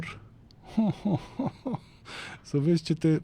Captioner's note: laughter